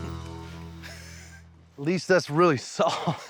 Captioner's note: laughs